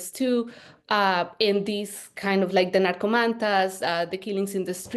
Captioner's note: speaking Spanish